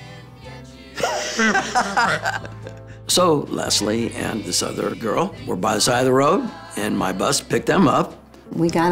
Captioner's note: laugh